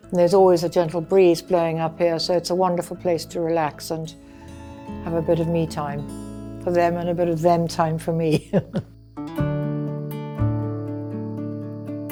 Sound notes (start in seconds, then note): 8.3 chuckles; 9.4 gentle music